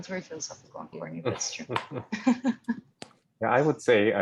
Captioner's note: laughing